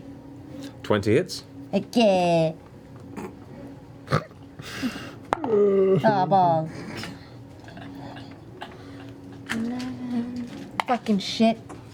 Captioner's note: silly voice